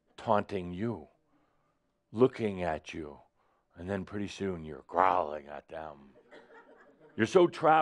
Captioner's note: a few giggles